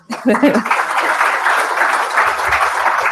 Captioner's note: applause